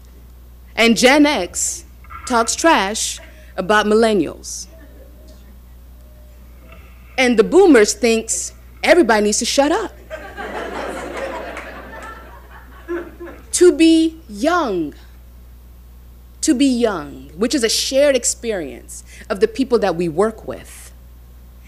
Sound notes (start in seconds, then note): 10.0 audience laughing